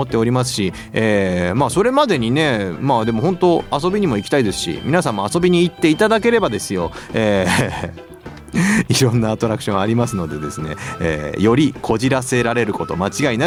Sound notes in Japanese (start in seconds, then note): 6.9 笑い